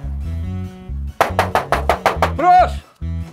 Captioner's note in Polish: pukanie do drzwi